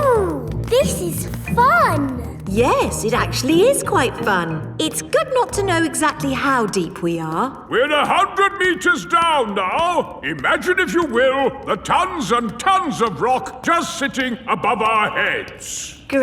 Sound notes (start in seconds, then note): none